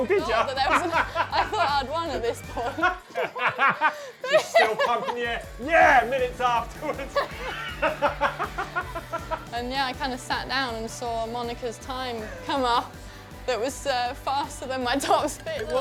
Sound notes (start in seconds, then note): 3.5 laughs; 6.4 both laughing